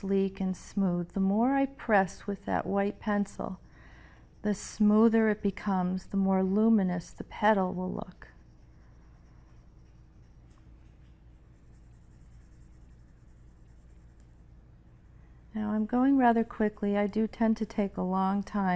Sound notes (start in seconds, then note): 14.9 pencil scratching